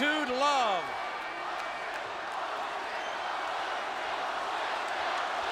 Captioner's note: audience chanting